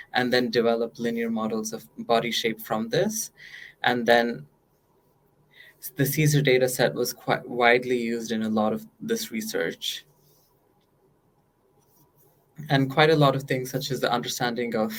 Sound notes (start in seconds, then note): none